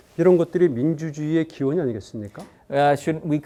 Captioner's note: speaking in Korean